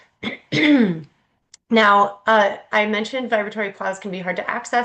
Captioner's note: clears throat